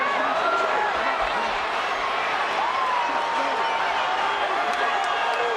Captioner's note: crowd shouts and cheers